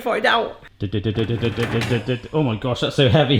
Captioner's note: mimics drum roll